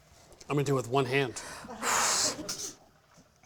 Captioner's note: exhaling